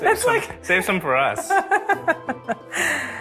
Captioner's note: laughs